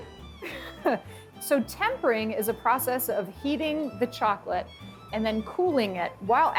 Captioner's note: chuckles